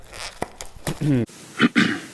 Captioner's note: box packing tape popping; clears throat; family guy old man clears throat